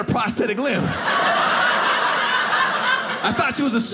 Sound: audience laughing

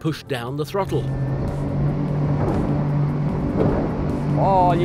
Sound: engines roaring

